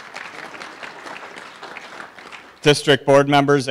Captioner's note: applause